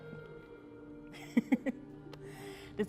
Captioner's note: giggles